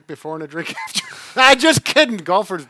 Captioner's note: laughs